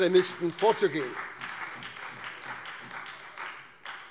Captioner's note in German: Beifall SPD